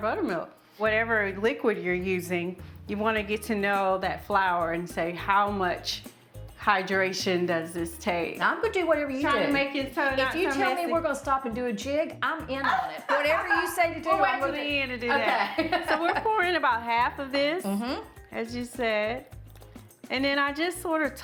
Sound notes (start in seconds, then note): 15.0 laughing